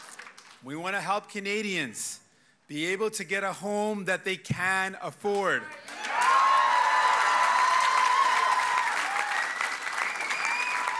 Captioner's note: cheers and applause